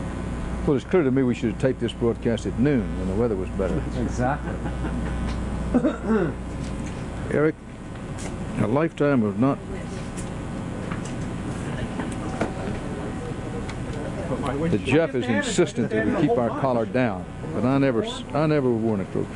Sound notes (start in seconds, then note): 4.3 chuckling